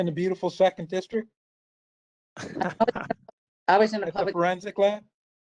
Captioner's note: laughter